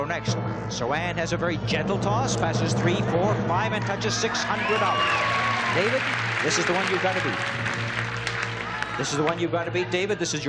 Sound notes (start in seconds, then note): 5.3 cheering